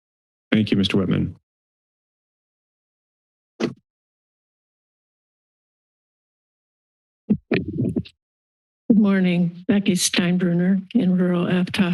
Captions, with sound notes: - Thank you, Mr. Whitman. [silence] - Good morning. Becky Steinbruner, in rural Aptos.